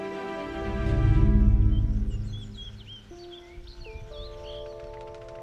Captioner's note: birds chirping